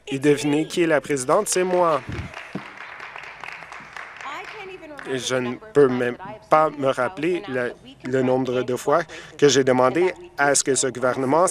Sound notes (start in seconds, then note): 4.8 some Applause